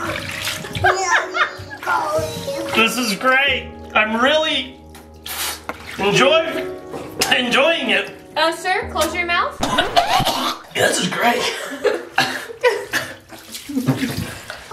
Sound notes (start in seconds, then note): 9.6 gags and coughs